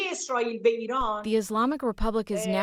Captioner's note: through translator